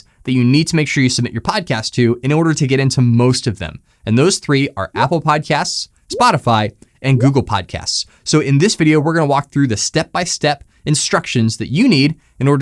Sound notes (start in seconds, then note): 6.1 icons popping